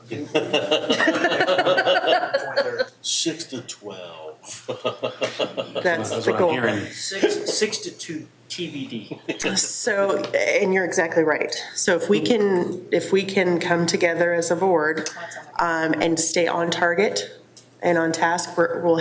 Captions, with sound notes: (board members laughing) - 6 to 12. (laughs) - That's the goal. - 6 to 2 TBD. - So, and you're exactly right. So, if we can come together as a board and stay on target and on task,